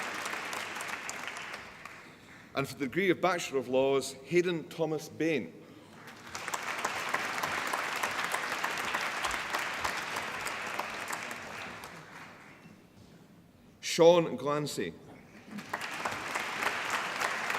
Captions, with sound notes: And for the degree of Bachelor of Laws Hayden Thomas Bain (APPLAUSE) Sean Glancey (APPLAUSE)